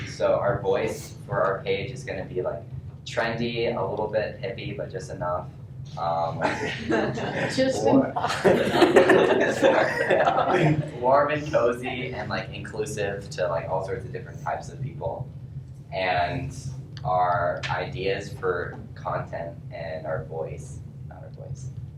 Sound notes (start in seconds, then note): 9.0 laughs